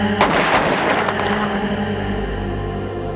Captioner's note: gunshots